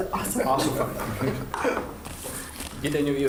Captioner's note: laughter